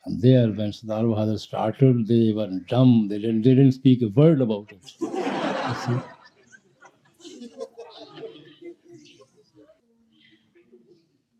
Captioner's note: laughter